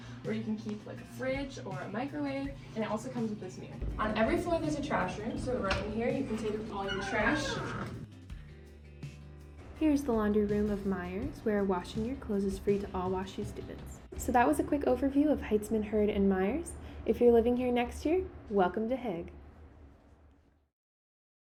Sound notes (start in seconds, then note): 6.1 hinge creaking; 8.5 soft upbeat music